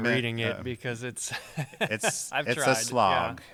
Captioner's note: chuckles